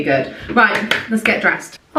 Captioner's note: claps